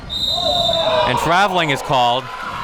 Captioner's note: whistling